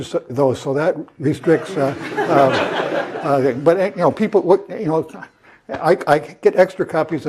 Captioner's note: laugh